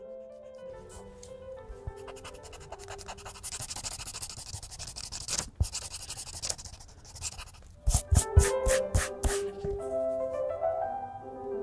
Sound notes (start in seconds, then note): 2.0 eraser scraping; 8.2 quiet playful music